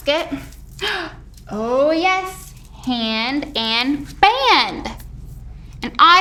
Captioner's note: gasps